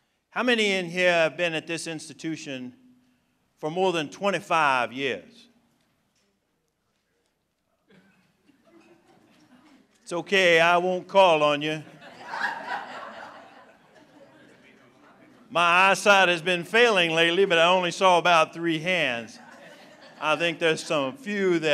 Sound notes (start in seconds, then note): 11.8 laughter